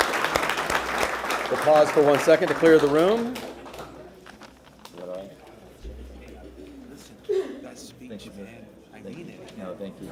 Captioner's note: applause